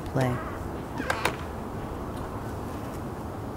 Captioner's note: door closing